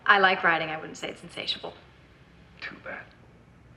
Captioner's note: none